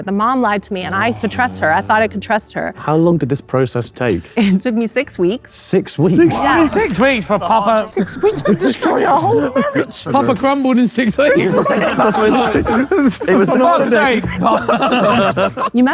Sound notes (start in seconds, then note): 11.9 group laughs